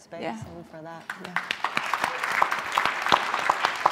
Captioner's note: applause